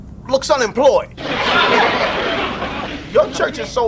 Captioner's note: audience laughs